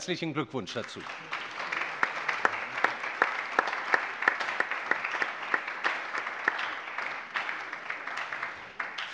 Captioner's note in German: Allgemeiner Beifall